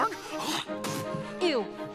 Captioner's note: Kristoff spits